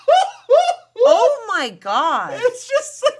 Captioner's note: laughing